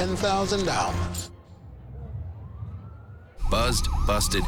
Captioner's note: distant siren